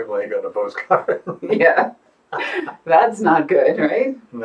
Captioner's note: laughing; laughs